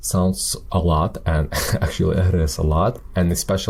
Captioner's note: chuckles